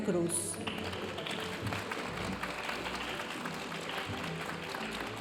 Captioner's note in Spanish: aplausos de la audiencia